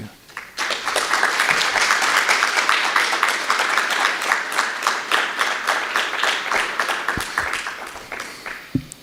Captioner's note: applause